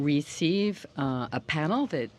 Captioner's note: speaking french